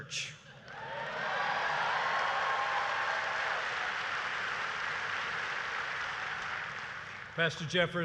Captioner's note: applause